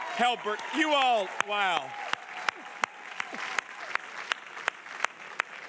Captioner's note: audience applauding